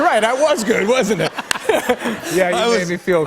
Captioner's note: laughter